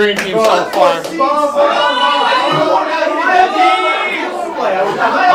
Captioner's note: lots of talking from green team